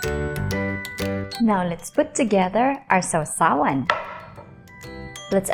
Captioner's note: bowl thuds